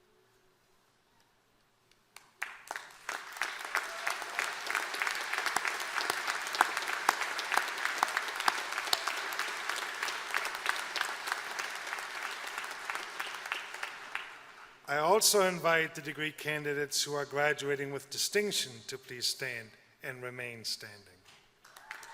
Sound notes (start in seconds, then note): 2.1 applause; 21.6 applause